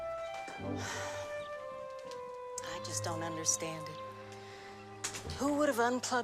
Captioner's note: sighing